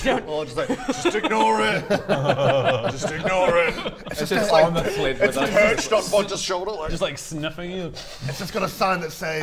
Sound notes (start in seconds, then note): 1.9 laughs